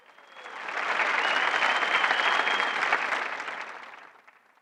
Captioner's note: audience applauding